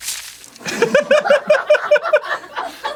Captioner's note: nervous laughter